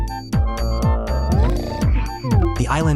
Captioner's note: snoring; groan; panting